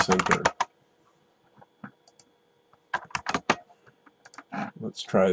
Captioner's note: typing